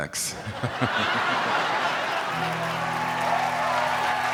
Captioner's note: crowd laughs